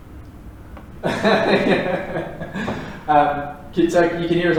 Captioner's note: laughing